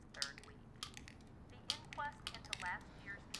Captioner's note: tablets clicking